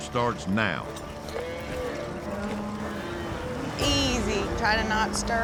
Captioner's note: cattle mooing